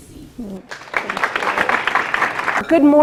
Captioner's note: applause